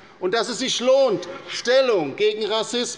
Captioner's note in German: none